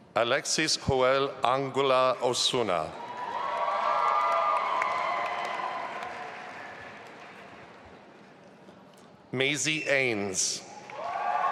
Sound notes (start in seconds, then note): 2.9 audience applauding and cheering